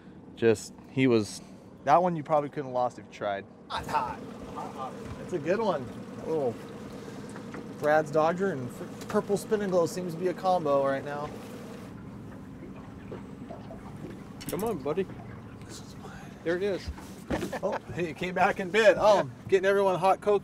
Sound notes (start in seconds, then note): 5.7 boat engine idling; 13.3 water lapping; 18.8 chuckling